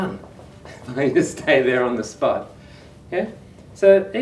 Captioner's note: chuckles